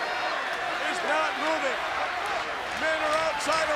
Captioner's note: audience clapping